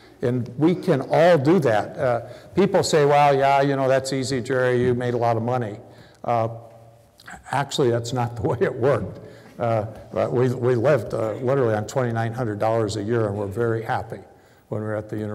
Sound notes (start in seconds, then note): none